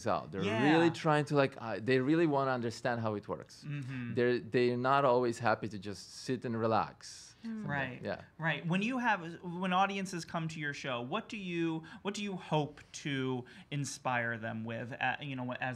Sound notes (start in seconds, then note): 9.3 stutters